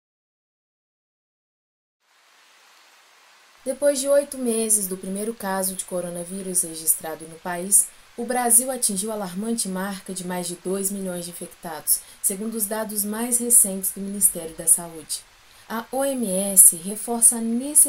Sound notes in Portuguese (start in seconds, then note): 1.9 chuva ao fundo; 3.6 JÉSSICA - Voz séria